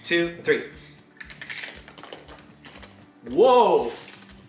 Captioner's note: crunching